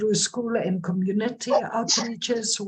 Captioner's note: dog barking